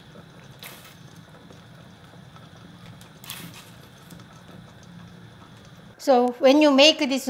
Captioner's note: none